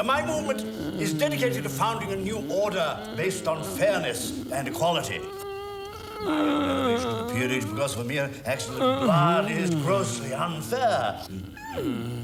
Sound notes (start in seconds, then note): 5.5 groaning